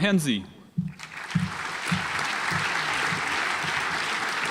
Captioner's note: audience applauds